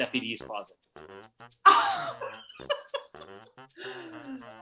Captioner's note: laughing